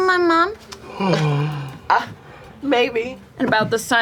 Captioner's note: gasps